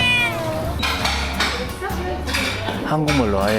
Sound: meow~~

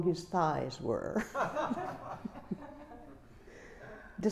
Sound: laughter

